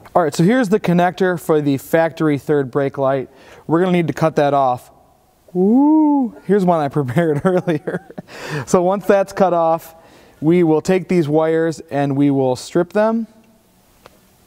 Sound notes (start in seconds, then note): 7.5 laughs